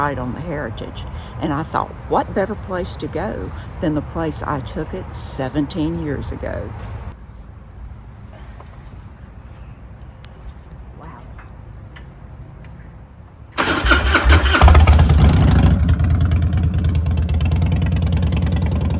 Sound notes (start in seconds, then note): 13.7 engine rumbling